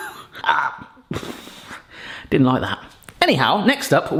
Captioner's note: gags; laughs